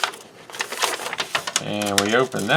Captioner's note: paper crinkles